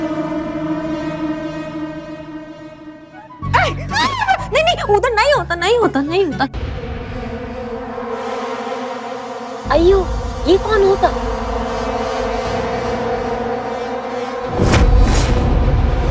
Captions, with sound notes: [screams] No, it's not there. Hey, who's that? [dramatic music]